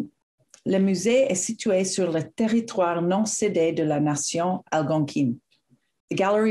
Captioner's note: speaks french